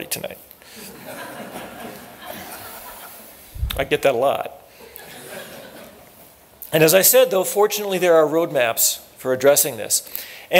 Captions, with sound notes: tonight. [LAUGHTER] I get that a lot. [LAUGHTER] And as I said though, fortunately there are roadmaps for addressing this.